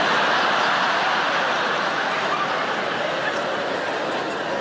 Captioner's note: audience laughing